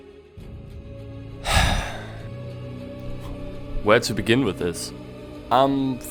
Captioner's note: sigh…